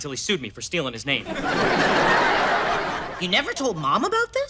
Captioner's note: audience laughter